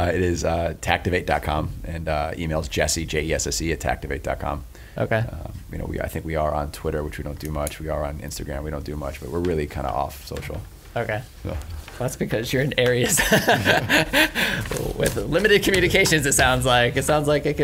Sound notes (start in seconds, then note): 13.0 laughs